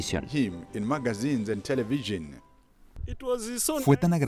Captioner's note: Hablando idioma extranjero